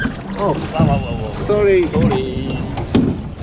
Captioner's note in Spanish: hablando ingles entre japoneses